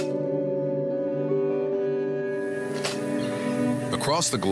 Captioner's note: slides clicking